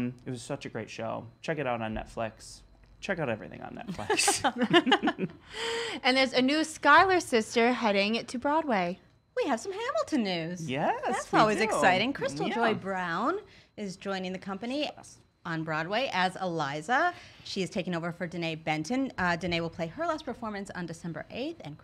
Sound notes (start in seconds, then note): 4.0 laughs